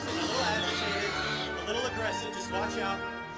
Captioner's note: sfx: Raptor sounds